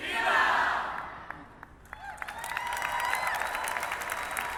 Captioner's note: clapping